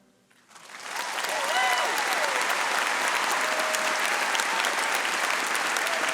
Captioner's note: audience applauding and cheering